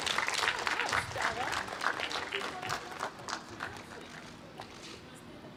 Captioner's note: applause